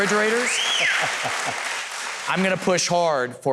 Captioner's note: Huckabee chuckles